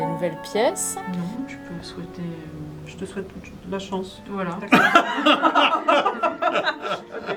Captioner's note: laughter